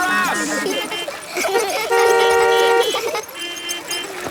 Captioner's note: laughter; beeping